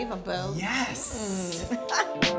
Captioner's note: laughs; gentle jazz music